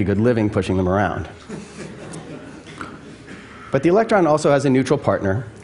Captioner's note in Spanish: Risas